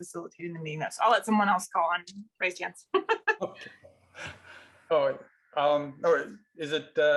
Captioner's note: laughs